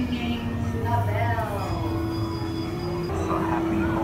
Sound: bell rings

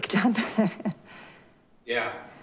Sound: laughs

